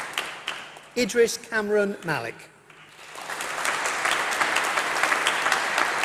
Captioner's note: applause